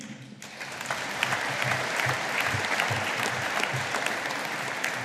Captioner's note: audience applauding